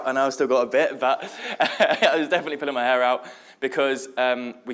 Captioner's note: laughs